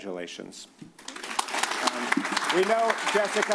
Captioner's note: applause